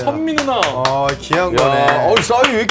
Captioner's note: applause